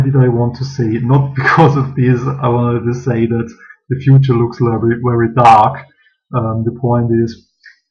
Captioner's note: laughs